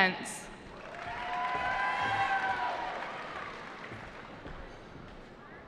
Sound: cheering

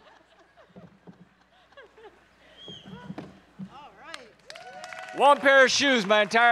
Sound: audience laughing and cheering

